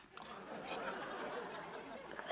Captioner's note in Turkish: Gülme efekti